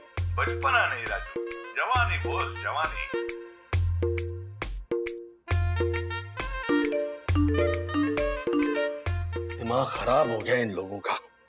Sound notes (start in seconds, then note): 6.8 phone beeping